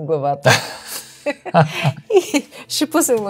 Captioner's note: laughter